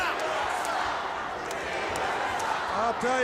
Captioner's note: crowd cheering